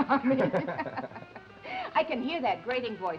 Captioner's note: both laughing